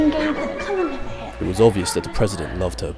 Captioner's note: voiceover